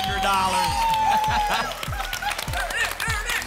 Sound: applause and cheering

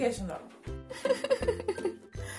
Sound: laughing

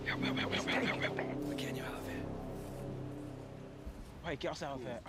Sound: whispers

